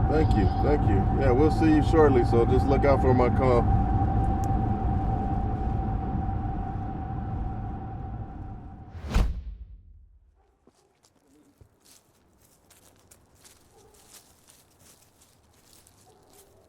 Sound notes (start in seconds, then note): 8.5 whoosh; 12.3 footsteps